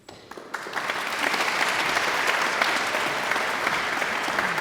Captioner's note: audience applauds